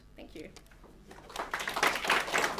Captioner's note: applause